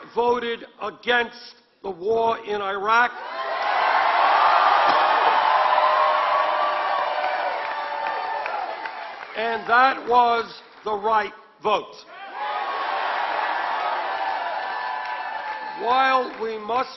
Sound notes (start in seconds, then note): 2.1 applause; 13.2 applause